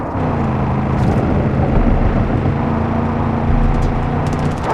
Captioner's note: engine revving